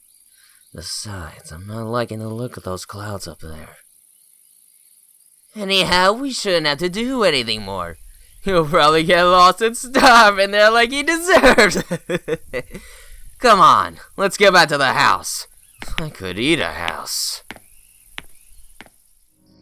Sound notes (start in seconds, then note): 12.6 laughs